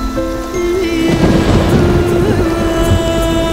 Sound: thundering

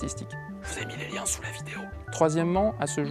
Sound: whispering

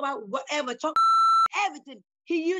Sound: beep

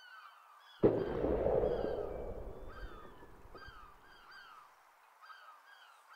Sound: cannon Shot

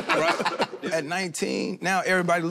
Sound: all laugh

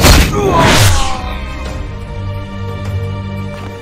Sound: screaming

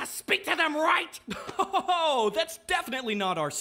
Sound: laughs

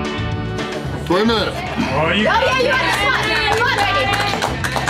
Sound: crowd

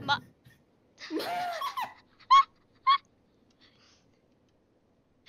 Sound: laughs quietly; burst out laughing

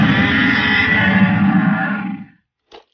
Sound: Indominus Roars

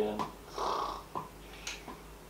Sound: more bored snoring sounds

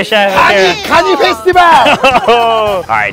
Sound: speaking Japanese; laughing

